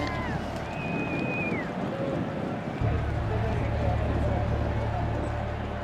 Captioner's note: cheers and applause